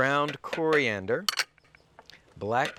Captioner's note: glass bowl clanking